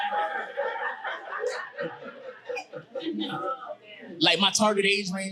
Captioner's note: audience cheering and laughing